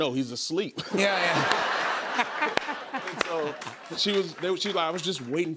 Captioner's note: audience laughing